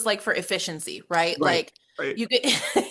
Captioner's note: laughs